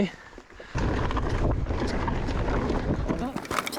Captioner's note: wind blowing